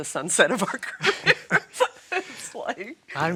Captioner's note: laughing